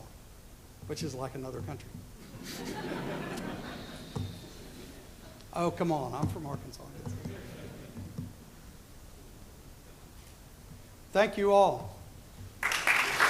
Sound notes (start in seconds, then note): 2.3 laughter; 12.6 applause